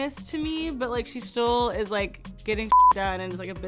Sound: beeb

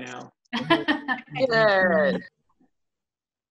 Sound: laughter

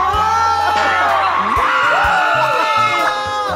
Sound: they scream at the cheesiness

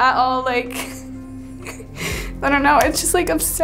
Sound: sobbing

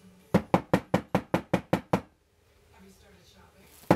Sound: knocking

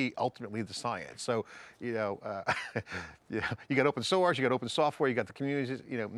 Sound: chuckles

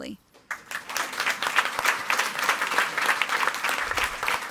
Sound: audience applauding

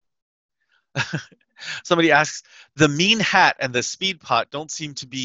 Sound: laughs

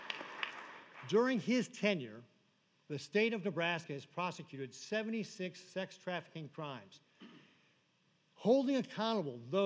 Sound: applause

